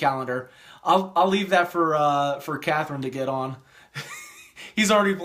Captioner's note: laughs